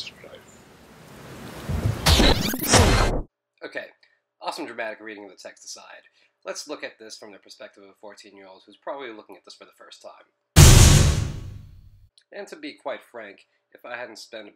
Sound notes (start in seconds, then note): 1.6 thunder and Rain; 2.1 tape Rewind